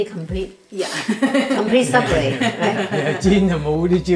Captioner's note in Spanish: Risas